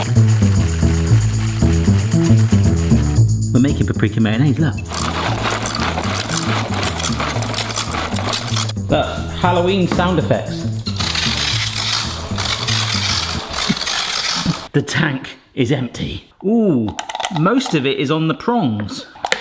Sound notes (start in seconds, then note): 0.1 tambourine shaking; 5.5 twisting and grinding; 11.1 scraping